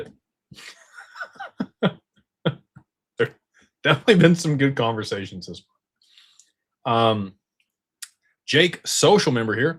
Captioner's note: laughter